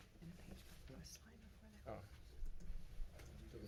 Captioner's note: whispering